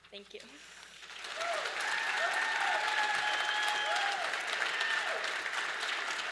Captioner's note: audience applause and cheers